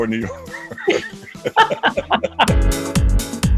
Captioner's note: laughter